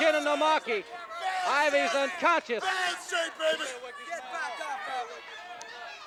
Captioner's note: Hercules shouting